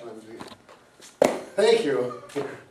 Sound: shoe clanks

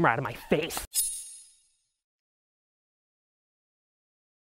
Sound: knife slicing

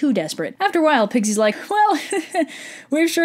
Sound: he-he

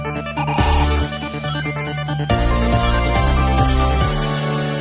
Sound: ring chimes

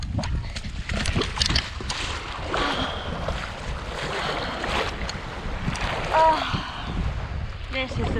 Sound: walking into water sighing

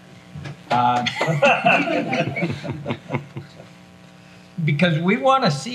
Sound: everyone laughs

